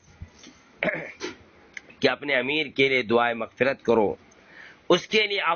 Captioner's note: clearing his throat